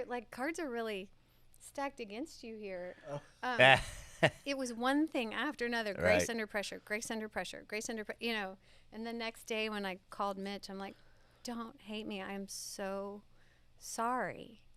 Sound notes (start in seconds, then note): 3.6 laughs